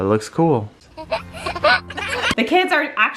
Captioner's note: giggles